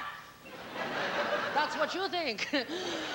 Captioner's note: laughter